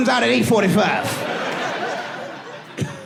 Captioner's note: laughs